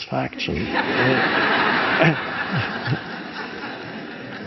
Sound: audience laughs

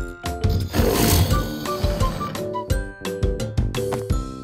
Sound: alligator roars

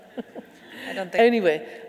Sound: laughing

